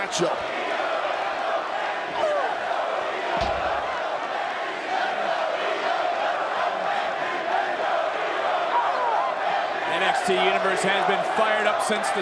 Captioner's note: crowd cheers